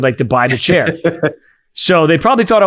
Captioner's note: laughing